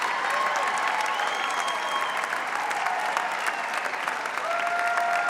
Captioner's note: audience member whistles